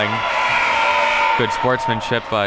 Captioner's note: buzzer blares; audience cheering